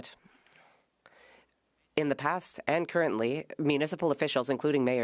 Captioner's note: speaking French